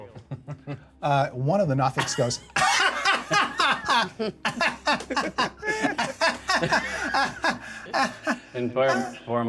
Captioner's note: laughter